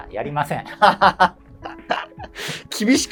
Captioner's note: laughing